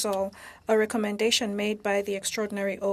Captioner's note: speaking French